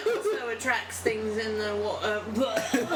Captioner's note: barfs